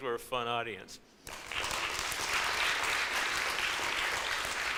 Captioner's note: audience applauds